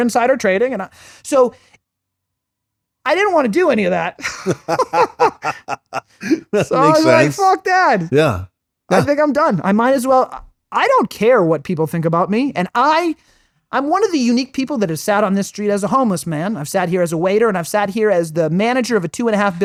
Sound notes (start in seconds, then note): 8.9 laughing